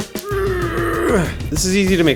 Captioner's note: grunts